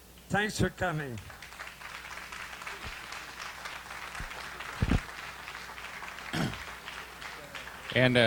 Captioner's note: audience applause